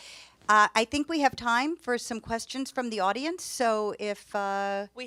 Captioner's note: none